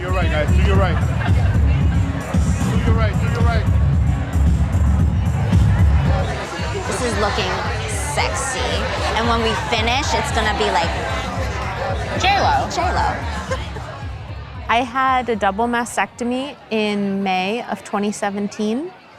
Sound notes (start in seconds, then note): 0.2 upbeat music; 2.6 people chatting